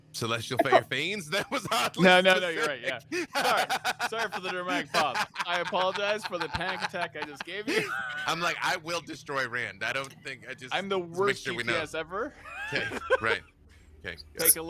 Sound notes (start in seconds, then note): 4.1 chuckling